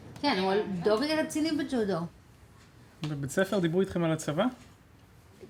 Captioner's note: speaking foreign language